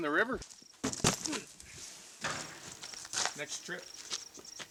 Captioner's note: thudding